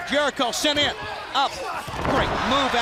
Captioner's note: crowd cheering